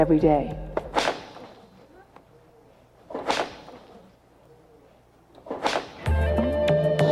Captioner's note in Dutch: Whip cracking